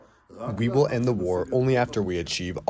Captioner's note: through translator